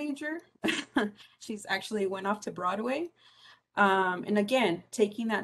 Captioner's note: laugh